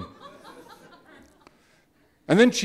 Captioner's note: audience laughing